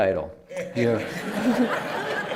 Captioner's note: laughter